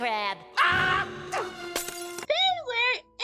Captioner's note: screams